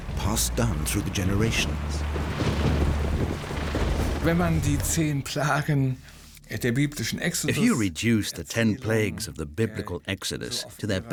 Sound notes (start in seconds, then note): 4.0 speaking German